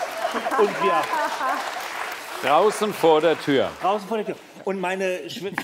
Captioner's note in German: Lachen